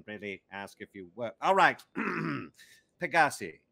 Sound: clearing throat

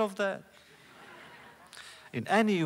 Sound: laughter

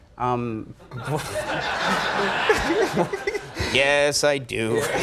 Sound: audience laughs

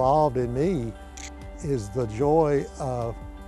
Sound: shutter click

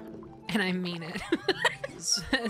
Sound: laughter

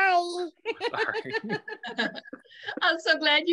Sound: laughing

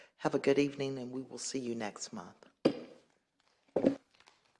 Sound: gavel pounded

